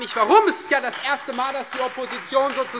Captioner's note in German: Beifall Freie Demokraten